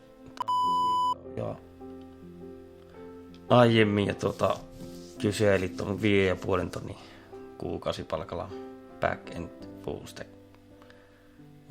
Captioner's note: beep